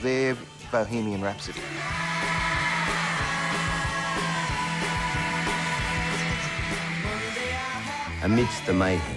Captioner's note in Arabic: صراخ الفتيات